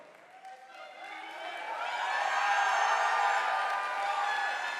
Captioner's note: audience applauding